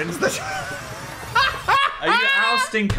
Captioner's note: Dan laughing